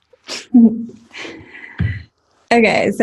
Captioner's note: giggling